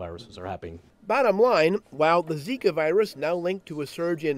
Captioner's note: voiceover